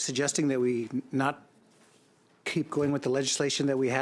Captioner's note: speaking in French